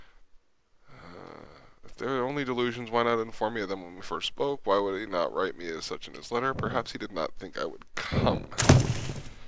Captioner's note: reading aloud